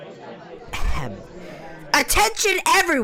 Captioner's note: clears throat